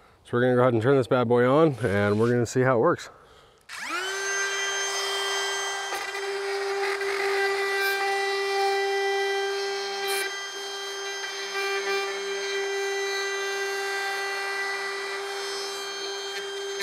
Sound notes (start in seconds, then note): 5.1 drilling